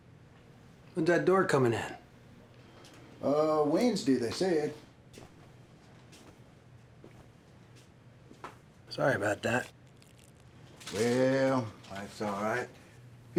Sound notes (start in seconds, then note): 4.7 slow footsteps